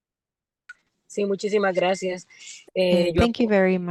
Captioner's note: speaking in foreign language